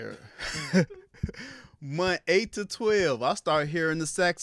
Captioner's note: laughs